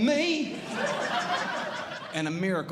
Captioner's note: audience Laughing